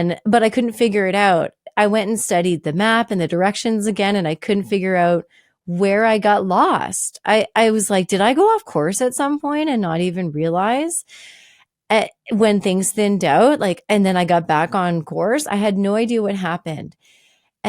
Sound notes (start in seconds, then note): none